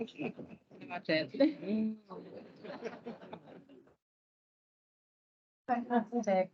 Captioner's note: audience and panel laughs; laughter continues